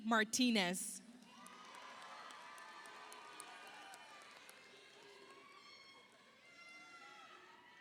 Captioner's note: audience cheers; audience applauds